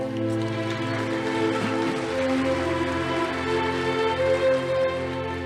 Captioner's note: audience applauding